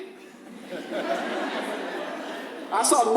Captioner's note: audience laughs